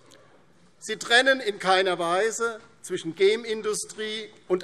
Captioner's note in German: none